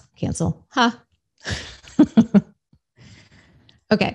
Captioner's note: laughs